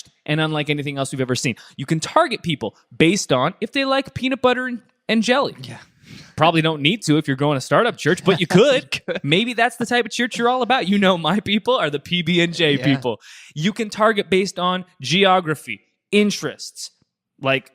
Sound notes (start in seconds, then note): 8.1 laughing